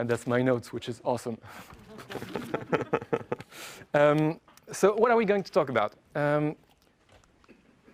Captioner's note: laugh